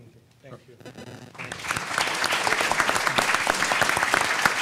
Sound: everyone clapping

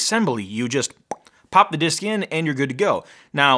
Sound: mouth pops

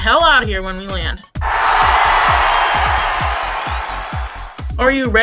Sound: cheers of excitement

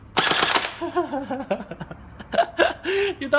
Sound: laugh

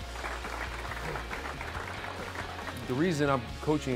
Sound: applause

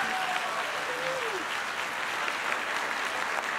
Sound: applause

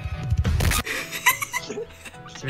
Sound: slight earrape

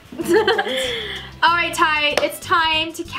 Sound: laughs

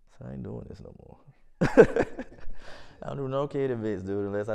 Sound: laughs

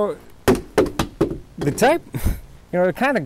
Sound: thud of phone dropping

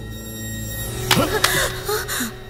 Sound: phone smashed

